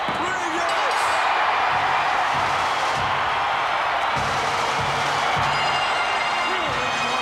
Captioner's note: crowd cheering; upbeat bagpipe music